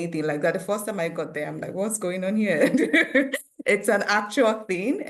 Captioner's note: laughs